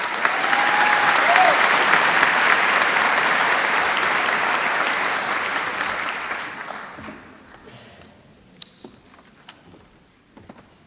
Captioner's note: applause